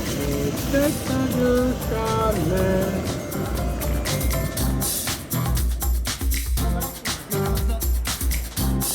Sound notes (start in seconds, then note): 0.0 hums